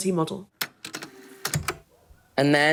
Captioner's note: the sound of the tape recorder starting up